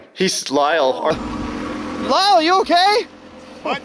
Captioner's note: machines whirring